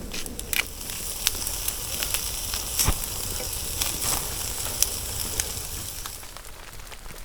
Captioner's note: grind grind grind; sizzle